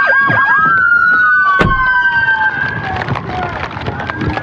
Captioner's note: sirenblaring